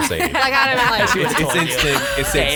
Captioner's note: laughs